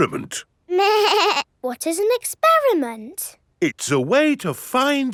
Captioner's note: snorts; bleating